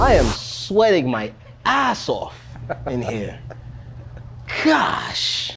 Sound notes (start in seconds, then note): 2.4 laughs